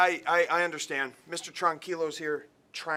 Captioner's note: speaking spanish